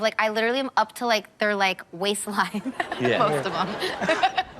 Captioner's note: laughs